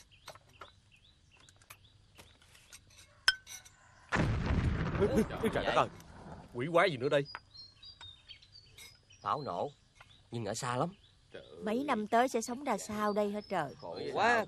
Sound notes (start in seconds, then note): 4.1 explosion sound; 14.2 chattering